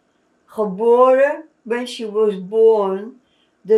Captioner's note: non-english